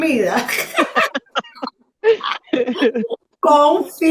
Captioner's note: risas